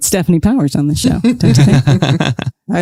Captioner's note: laughs